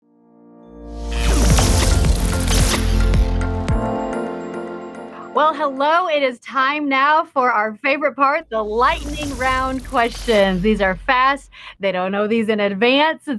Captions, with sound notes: (upbeat music) (electricity fizzing) - Well hello, it is time now for our favorite part, the Lightning Round questions. These are fast, they don't know these in advance.